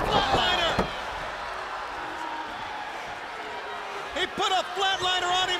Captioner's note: crowd chatter